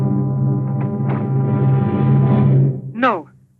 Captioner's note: door opens